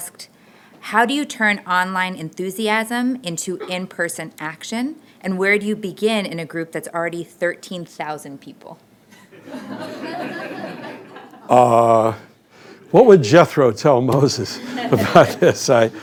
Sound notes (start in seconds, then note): 9.2 laughter